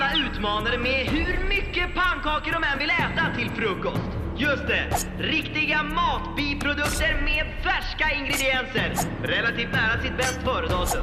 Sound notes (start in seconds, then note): none